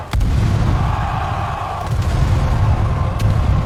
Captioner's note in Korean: 비명